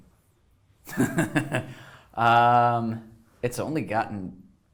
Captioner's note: laughs